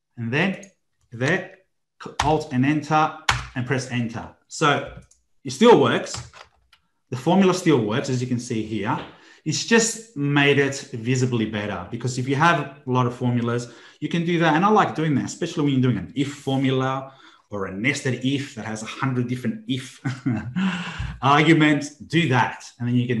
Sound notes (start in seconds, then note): 19.8 chuckles